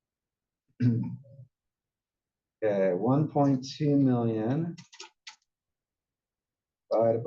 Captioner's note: cough